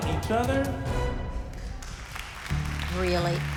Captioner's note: audience applauds